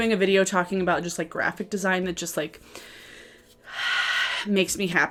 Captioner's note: exhales